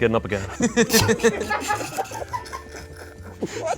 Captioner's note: group laughs